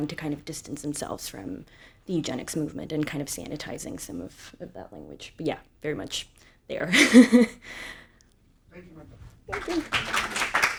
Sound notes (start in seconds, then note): 6.9 chuckles; 9.4 audience applauding